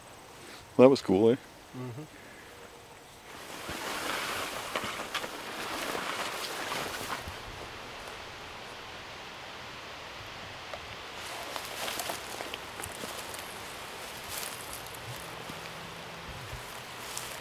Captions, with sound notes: that was cool (wind / walking noises)